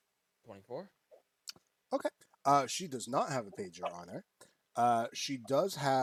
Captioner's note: sucks teeth